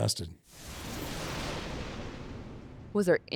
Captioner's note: thunder rumbling